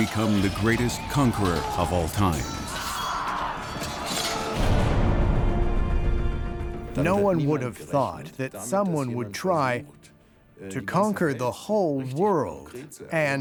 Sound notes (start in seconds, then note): 3.3 groaning; 3.3 yelling; 7.3 in German